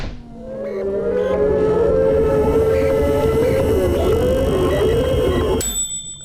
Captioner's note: electronic distortions; kitchen timer dings